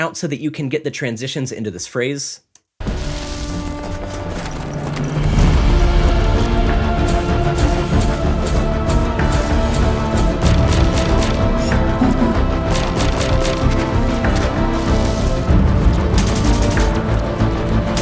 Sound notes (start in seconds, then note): 3.0 suspenseful music playing; 12.8 gunshots sounding